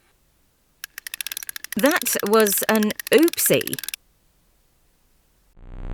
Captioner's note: Snake speaking via Music Box